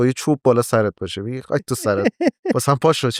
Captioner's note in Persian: خنده